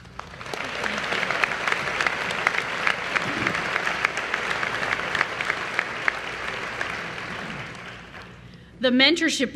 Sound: applause

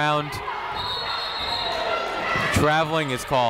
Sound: whistle tweeting

